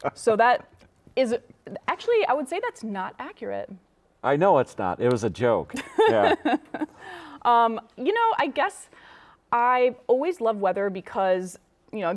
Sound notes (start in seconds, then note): 5.7 laughing